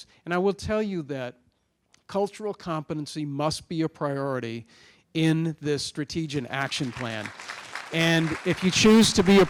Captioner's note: applause